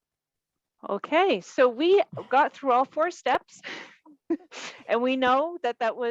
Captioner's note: chuckles